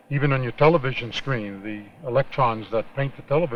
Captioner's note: none